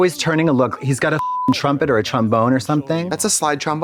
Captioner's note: beep